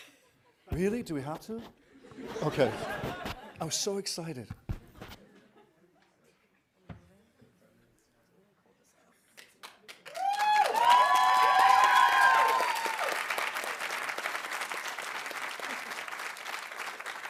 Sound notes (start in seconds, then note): 10.0 audience cheering; 11.3 audience applauding